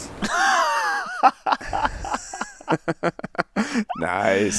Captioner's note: interviewer and Joel laughing